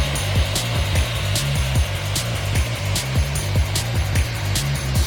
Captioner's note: engines power down